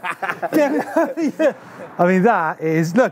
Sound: laughing

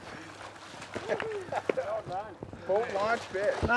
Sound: splashing

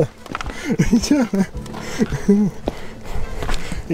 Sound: laughter through tears

